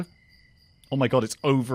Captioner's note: sarcastically